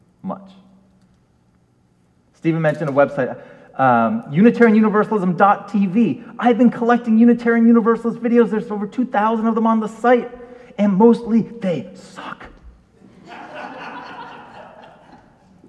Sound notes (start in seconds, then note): 13.0 audience laughs